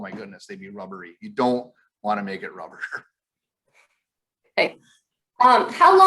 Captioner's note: chuckles